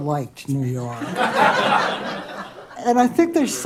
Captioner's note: laughter